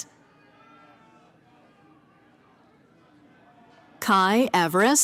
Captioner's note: cheering